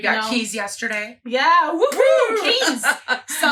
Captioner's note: laughs